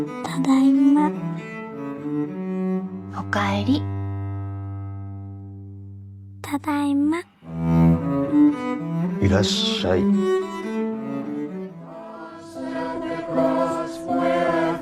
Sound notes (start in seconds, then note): 0.3 gentle music; 3.3 speaking foreign language; 9.5 singing